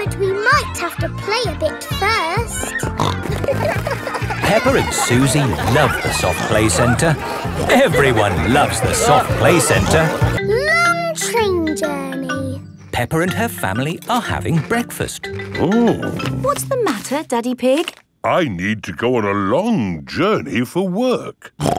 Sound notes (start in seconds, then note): 2.6 snorting